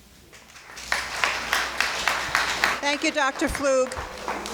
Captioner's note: crowd clapping